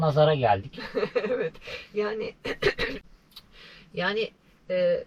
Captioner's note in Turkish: kahkaha; boğazını temizler